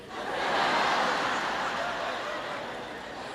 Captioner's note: crowd laughs